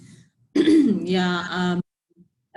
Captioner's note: clearing throat